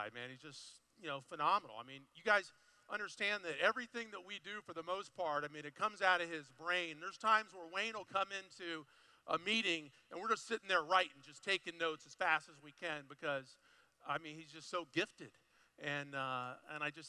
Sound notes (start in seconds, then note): none